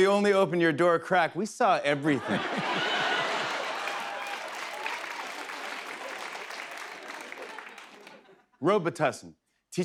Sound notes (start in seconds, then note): 2.0 laughter; 2.8 applause